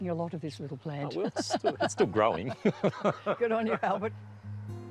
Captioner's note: chuckles